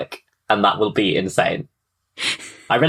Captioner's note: laughs